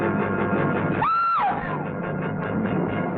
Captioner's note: woman screams